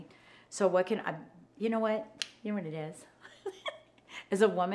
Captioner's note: laughs